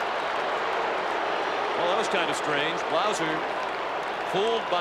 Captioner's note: applause